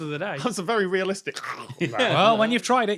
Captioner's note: choke